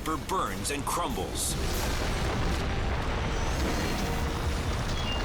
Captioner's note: building crashing